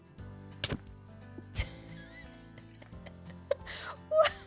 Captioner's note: laughs